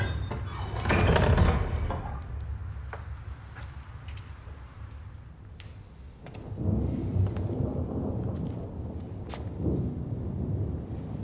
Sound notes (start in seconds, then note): 0.0 door thudding; 5.8 thunder rumbling